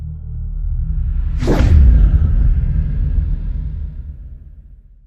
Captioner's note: suspense music; air whooshing